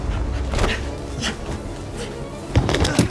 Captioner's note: grunting; metal clanking